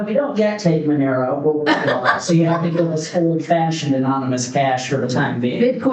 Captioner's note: laughs